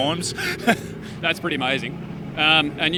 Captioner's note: chuckles